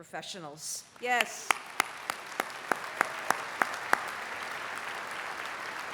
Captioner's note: applause